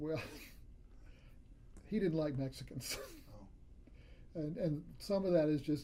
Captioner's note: laughs